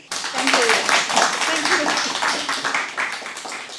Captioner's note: applause